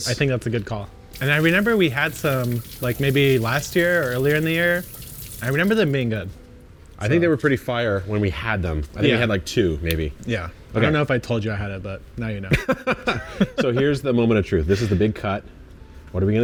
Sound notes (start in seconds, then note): 12.5 laughs